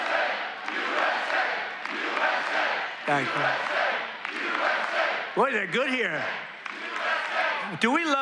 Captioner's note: crowd chanting "usa"